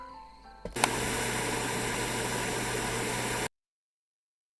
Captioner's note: light music; TV static hissing